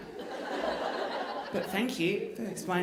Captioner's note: audience laughing